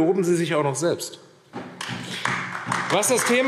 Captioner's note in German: Beifall AfD